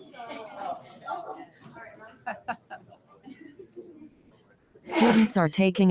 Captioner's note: people chatter indistinctly